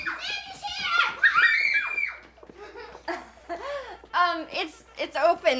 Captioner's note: children squealing; children laughing